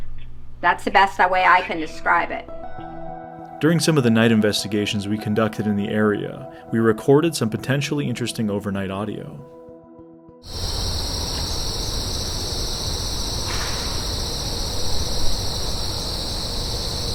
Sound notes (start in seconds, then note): 10.4 wind whistling